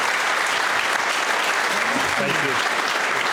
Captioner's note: applause